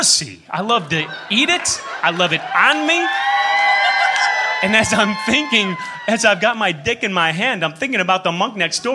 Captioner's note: cheers